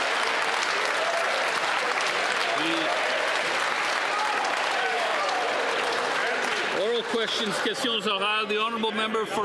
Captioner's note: some Applause